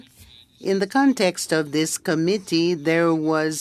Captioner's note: speaking French